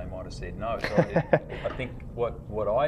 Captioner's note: laughs